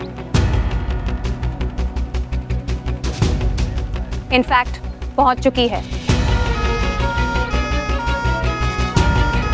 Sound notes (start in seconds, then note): 6.2 ambulance sirens wailing